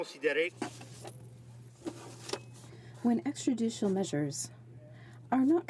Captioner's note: speaking French